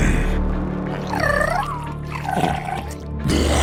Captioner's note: happy gurgle